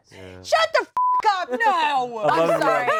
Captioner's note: beeps